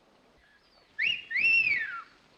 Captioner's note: whistling